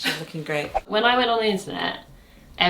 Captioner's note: screen whooshing